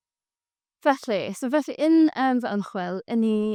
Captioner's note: in Welsh